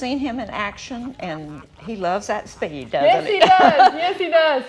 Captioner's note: laughs